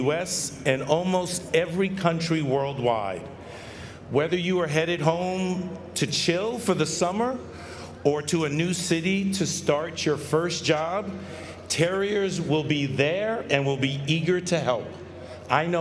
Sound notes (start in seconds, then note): none